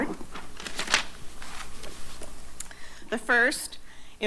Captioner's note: papers shuffling